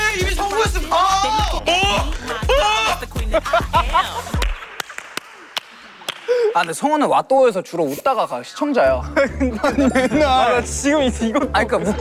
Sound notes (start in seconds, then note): 0.9 angry voice out of frustration: 250,325 times; 1.6 scared voice: 250,812 times